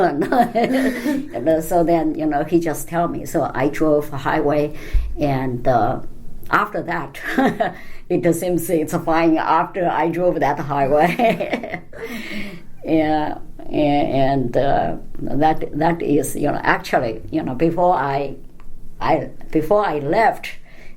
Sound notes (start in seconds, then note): 0.2 laughs; 7.0 laugh; 11.9 laughd